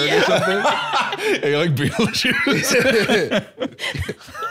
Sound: both laughing

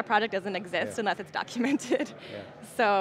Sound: laughing

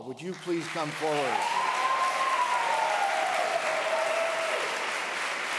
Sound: audience applauds

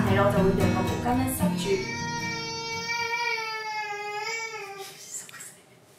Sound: crying…

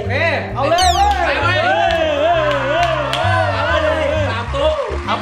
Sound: cheering

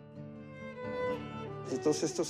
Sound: speaking spanish

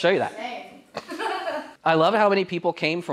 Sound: laughter

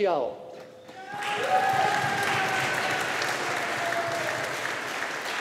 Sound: audience applauding

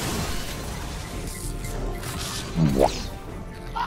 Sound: boo-womp Sound effect

